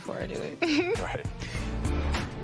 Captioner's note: chuckles